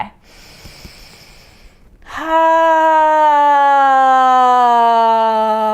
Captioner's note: inhaling and sighing